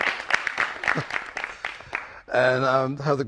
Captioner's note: applause